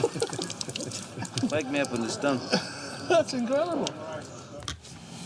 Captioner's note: all chuckling; chuckles